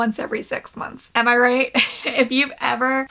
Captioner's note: laughing